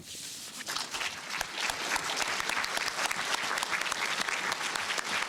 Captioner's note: applause